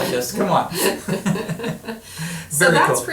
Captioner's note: laughing